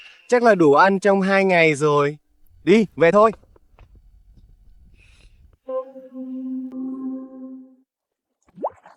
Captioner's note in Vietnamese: khịt mũi